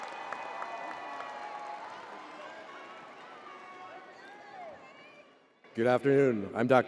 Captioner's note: crowd applauding continues